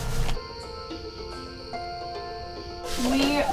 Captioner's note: crickets